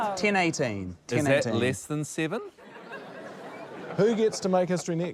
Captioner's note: laughter